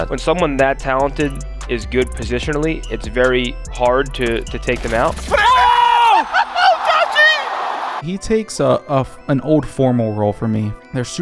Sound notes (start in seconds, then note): 5.2 casters exclaim